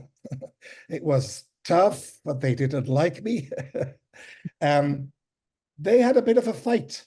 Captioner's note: chuckles; chuckles